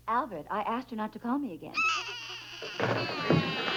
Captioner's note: Stanley cries